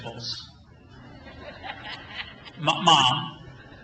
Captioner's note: crowd laughs